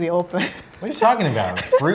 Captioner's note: laughing